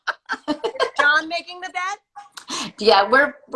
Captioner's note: laughs